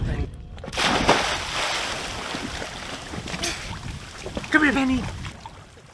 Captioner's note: water splashing